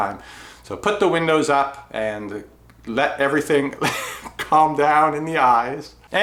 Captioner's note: laughs